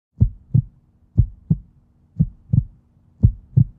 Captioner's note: heart beating